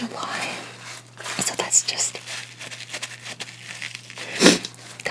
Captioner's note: sniff